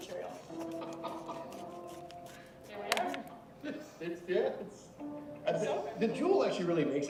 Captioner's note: laughing